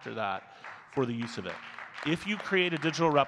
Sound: audience clapping

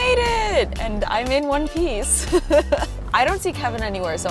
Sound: laughs

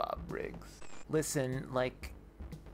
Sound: static

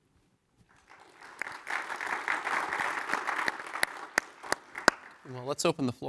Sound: applause

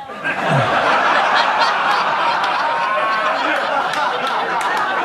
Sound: audience laughing

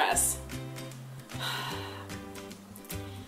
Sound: heavy breath

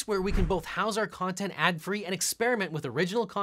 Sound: air whooshes

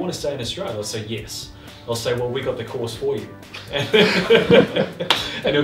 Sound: laughter

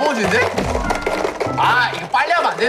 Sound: slap slap slap

